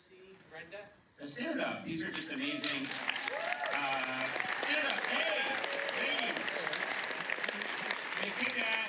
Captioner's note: applause